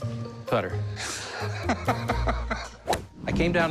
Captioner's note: laughs